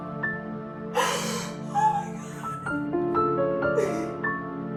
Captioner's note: crying